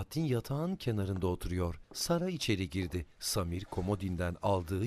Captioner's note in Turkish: Ayak sesi